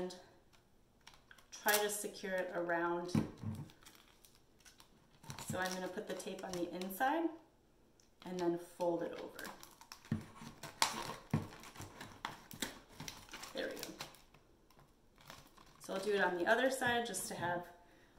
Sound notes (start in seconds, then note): 9.7 taping noise